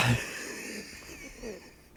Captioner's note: laughing